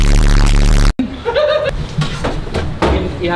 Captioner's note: laughs